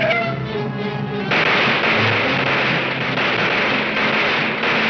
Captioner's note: gunshots banging